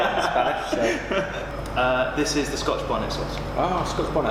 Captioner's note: laughing